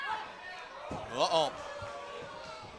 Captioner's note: crowd chatter